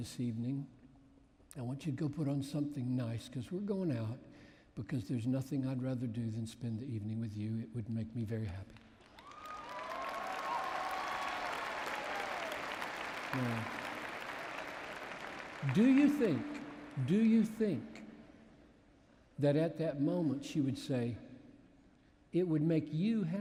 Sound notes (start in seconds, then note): 8.7 applause